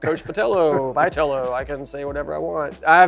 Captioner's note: laughing